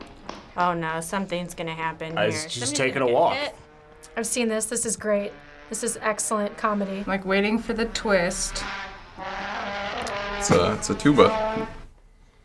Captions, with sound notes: - Oh no. Something's gonna happen here. Is somebody gonna get hit? - He's just taking a walk. - I've seen this. This is great. This is excellent comedy. (motorcycle accelerating) - I'm waiting for the twist. (trombone imitating engine) - That's a tuba.